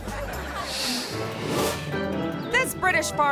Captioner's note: audience laughing; playful music; graphics whooshing